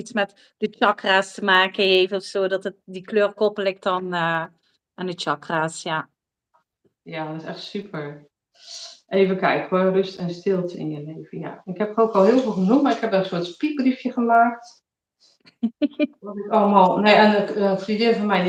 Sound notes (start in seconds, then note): 15.6 laughs